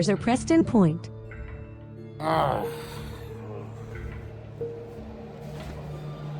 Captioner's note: sighs